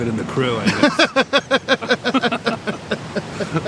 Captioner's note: laughter